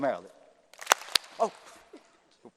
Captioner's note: applause